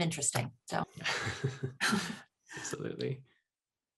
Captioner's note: laughs